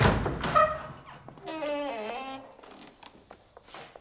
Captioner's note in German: Knarren der Tür